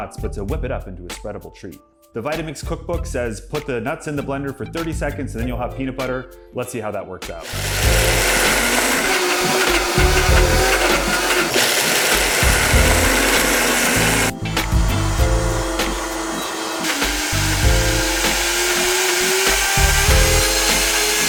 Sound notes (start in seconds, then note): 7.5 blender whining